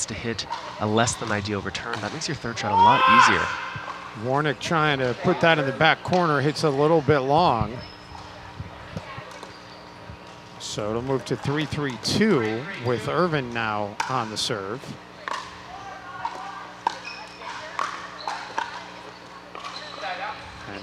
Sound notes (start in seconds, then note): 8.5 people chattering; 15.5 ball bouncing